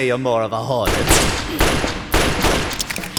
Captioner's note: gunshots; falling magazine